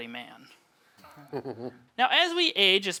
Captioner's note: laughing